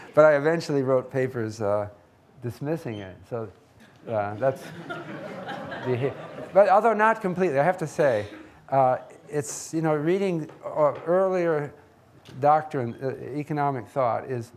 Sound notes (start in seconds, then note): 4.2 audience laughing